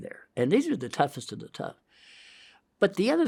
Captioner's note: inhales